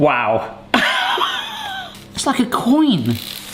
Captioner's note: laughing